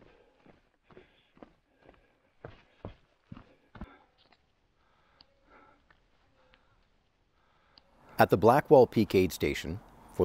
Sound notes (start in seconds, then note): 0.0 labored breathing; 2.4 footsteps scuffing